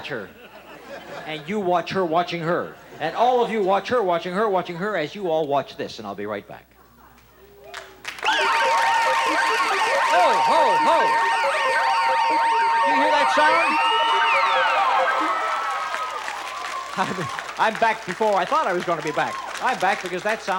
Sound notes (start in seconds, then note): 6.7 audience applause; 8.8 siren; 13.8 audience applause